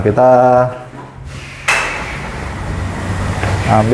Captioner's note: door opening